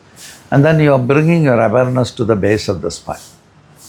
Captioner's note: none